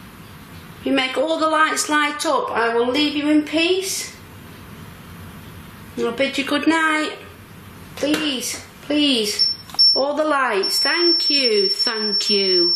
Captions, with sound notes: If you make all the lights light up, I will leave you in peace, and I'll bid you good night. Please, please. (metre beeps) All the lights, thank you, thank you.